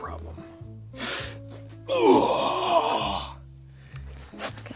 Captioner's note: roars dramatically